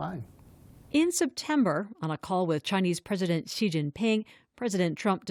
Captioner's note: voice-over